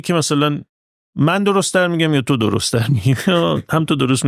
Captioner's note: laughs